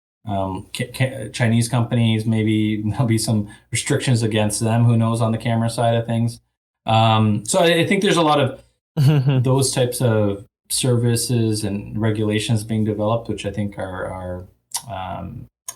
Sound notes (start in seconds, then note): 9.0 chuckling